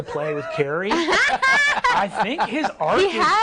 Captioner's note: others laughing